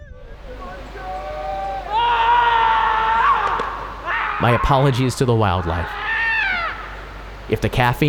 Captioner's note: screams